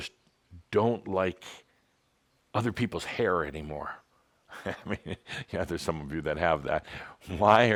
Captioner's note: Adamus chuckles